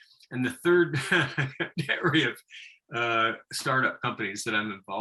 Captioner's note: laughing